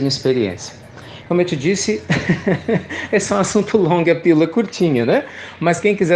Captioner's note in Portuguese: Risos